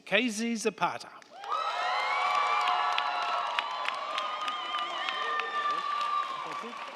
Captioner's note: crowd clapping; crowd cheering